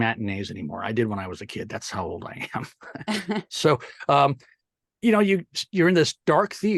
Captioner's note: laugh